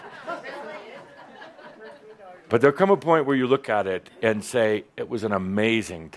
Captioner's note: some chuckles